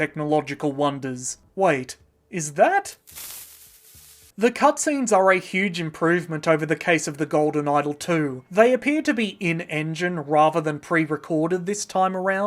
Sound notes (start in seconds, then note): 3.0 Creeper hiss